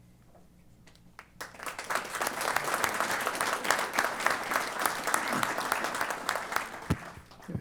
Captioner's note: applause